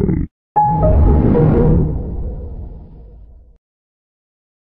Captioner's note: Lowest Windows XP shutdown sound